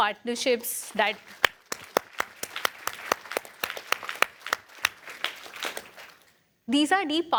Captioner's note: applause